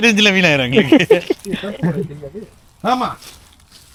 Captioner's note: laughter